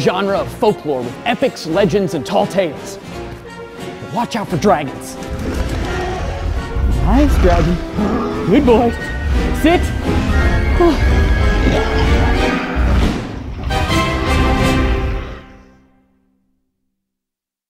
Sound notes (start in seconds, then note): 6.3 roaring; 11.6 gasps; 12.4 suspenseful music